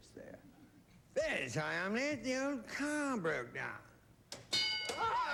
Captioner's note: british accent